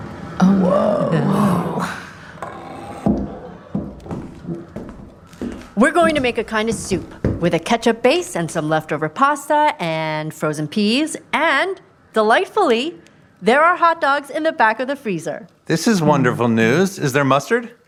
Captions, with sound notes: - Woah! - Oh no! (door squeak) (footsteps approaching) We’re going to make a kind of soup, with a ketchup base and some leftover pasta, and, frozen peas. And, delightfully, there are hotdogs in the back of the freezer! This is wonderful news. Is there mustard?